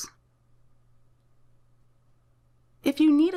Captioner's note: silence